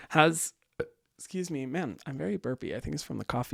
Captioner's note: burps